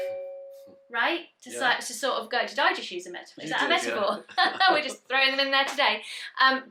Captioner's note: they laugh